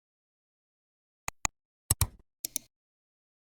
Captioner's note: 3 different clicks